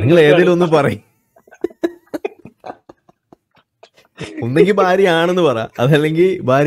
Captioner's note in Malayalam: പൊട്ടിച്ചിരി